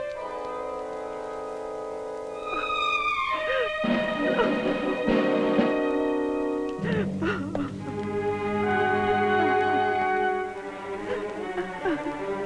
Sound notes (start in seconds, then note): 2.4 crying